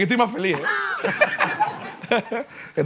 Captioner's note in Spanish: Risas